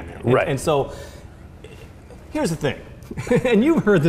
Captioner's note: laughs